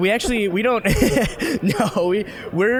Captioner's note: both laughing